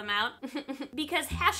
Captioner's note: laughs